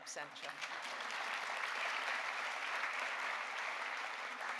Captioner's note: audience applauding